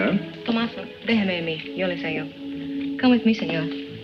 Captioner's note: Teresa speaking in foreign language